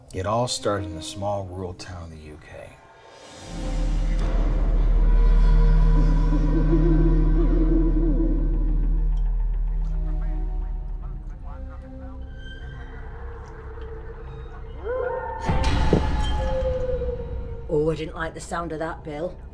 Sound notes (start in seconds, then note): 3.1 dark music; 6.2 owl howling; 14.7 glass bowl shatters; 14.7 spooky distant yelling